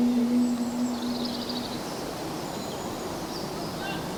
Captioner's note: birdsong